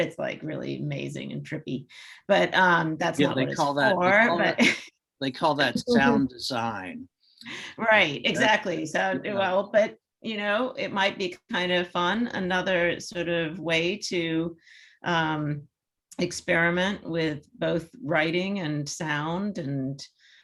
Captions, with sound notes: It's really amazing and trippy. But that's not what it's for. (laughs) - Yeah, they call that sound design. - Right, exactly. So, but you know, it might be kind of fun, another sort of way to experiment with both writing and sound, and,